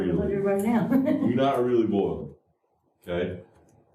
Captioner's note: laughter